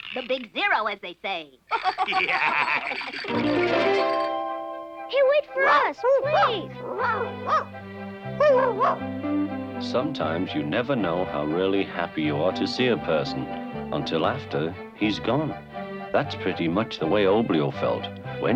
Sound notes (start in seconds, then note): 1.7 laughing; 3.2 chiming music; 8.0 light orchestral music; 8.4 Arrow barking